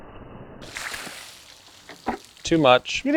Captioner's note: water splattering